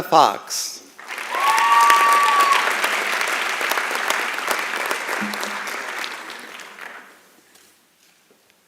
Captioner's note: applause and Cheering